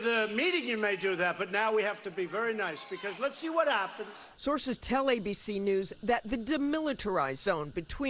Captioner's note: crowd booing